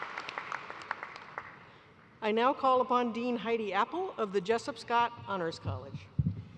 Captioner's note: cheers and applause